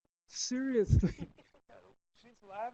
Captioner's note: laughter